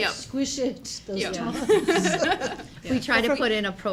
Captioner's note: everyone laughing